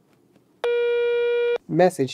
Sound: phone tone

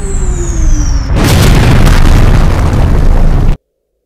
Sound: moon exploding, explosion sounds

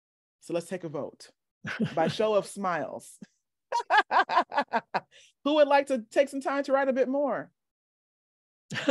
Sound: laughter

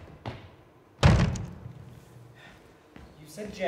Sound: door slams

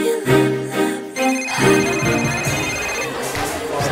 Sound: cellphone rings

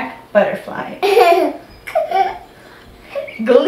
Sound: laughs

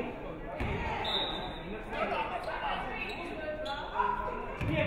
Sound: referee whistles

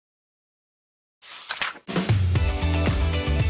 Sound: typewriter; page flips; theme Music

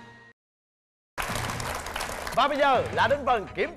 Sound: applause

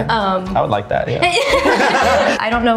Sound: everyone laughs

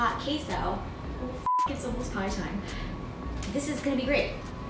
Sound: beep

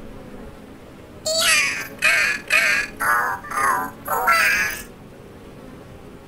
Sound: a seagull cries

